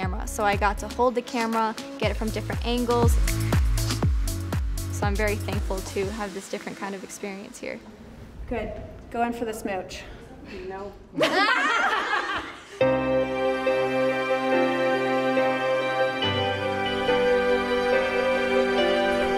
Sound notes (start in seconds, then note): 11.2 laughing; 12.8 gentle music